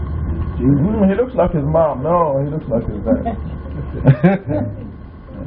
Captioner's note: laughing